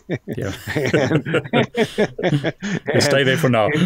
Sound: both laughing

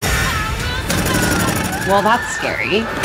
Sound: gun fires

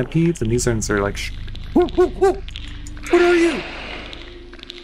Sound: hooting

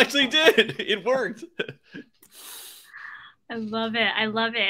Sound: laughs

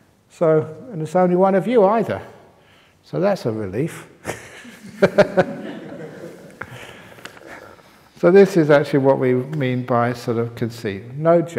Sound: laughter

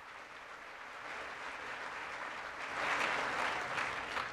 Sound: applause

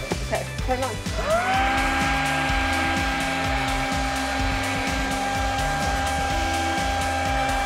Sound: motor running

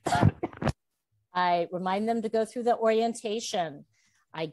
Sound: coughs

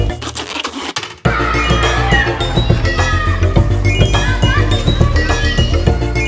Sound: children playing

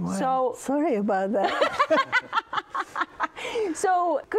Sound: laughs

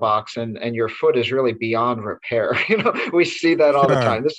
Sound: laughs

